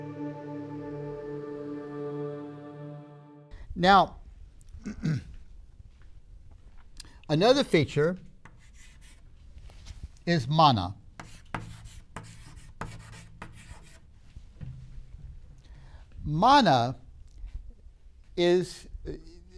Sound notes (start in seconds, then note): 4.7 clears throat; 11.2 chalk sounds